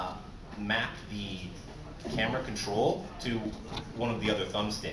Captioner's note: none